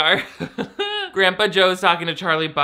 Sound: laughs

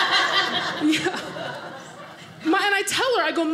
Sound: audience laughing

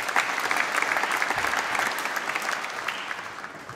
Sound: applause

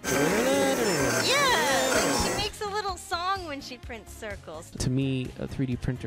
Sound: imitating printer; SFX: mechanical screeching in ascending and descending tones

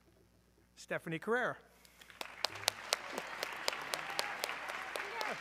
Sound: audience cheering

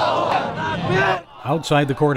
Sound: yelling

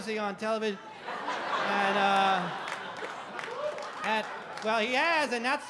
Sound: audience laugh

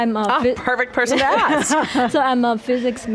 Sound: both laughs

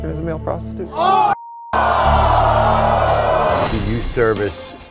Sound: audience screaming

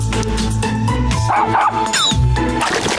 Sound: barking

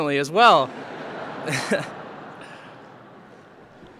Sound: laughter

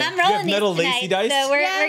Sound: overlapping chatter

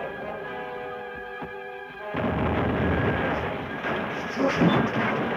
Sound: rocket exploding

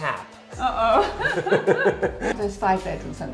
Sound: giggling

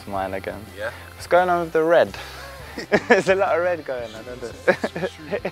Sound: laughs

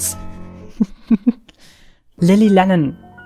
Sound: laughs

